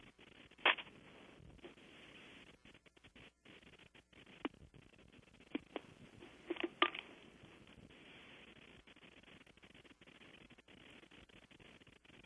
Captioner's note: pause